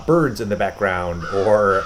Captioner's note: birds chirping